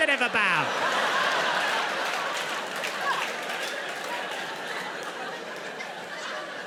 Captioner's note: audience applauding; audience laughs